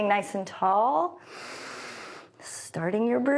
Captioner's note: inhales